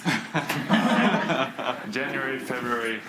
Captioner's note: students laugh